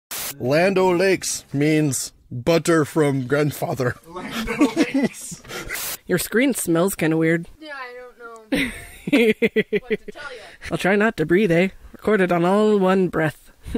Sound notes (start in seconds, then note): 4.2 snickering; 8.5 giggling